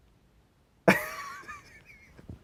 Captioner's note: laughs